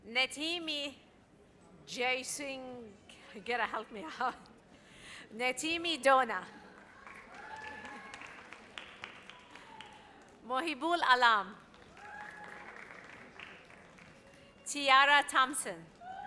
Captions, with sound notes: Natimi... Jason, you gotta help me out. Natimi Dona. (audience applauds) Mohibul Alam. (audience cheers) Tiara Thompson.